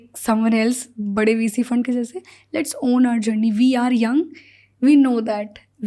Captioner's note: speaks in Hindi